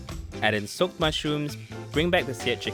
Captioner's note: voiceover